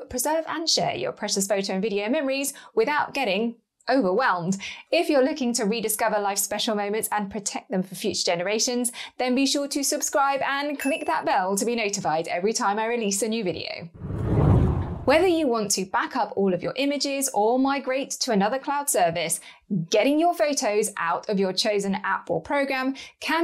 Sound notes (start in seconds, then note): 13.9 air whooshes